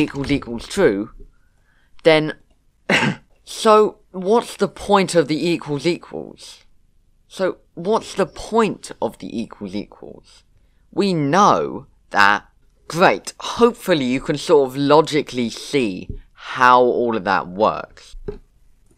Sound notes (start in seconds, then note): 2.8 cough